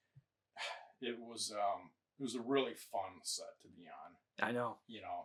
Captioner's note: sighs